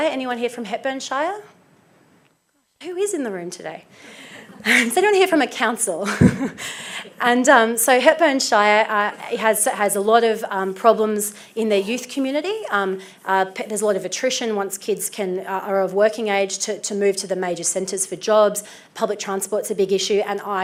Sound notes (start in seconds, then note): 4.3 audience laughs; 7.0 laughs